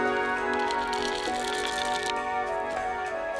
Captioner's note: chocolate chips pouring